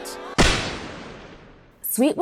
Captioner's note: gun fires